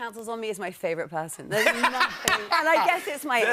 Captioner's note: laughter